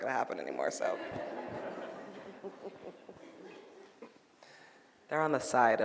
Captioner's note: audience laughing